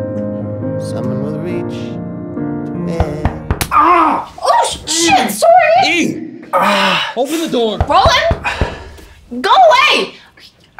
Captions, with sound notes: [loud knocking at the door] - Ah! - Oh, shit! Sorry! - E! Open the door! - Roland? Go away!